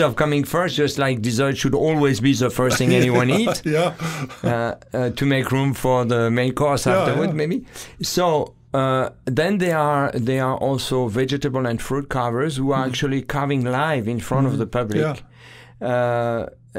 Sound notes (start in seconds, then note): 2.6 laughing